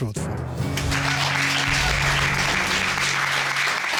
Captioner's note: applause